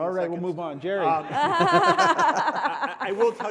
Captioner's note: panelists laugh